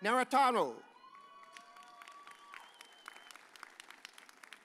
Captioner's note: audience cheers